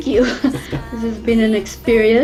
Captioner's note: laughing